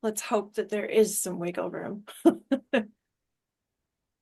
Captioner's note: laughter